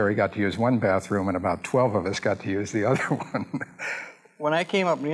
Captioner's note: laughs